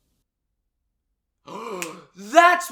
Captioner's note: gasps